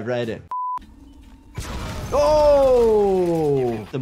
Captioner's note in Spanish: bomba explotando